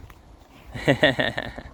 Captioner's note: laughing